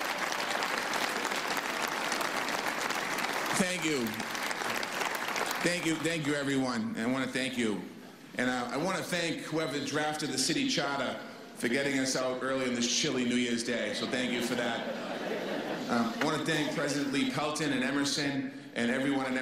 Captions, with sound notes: [CROWD CLAPPING.] THANK YOU, THANK YOU, THANK YOU. THANK YOU. THANK YOU, EVERYONE AND I WANT TO THANK YOU. AND I WANT TO THANK WHO EVER